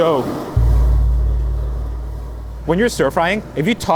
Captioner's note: text booming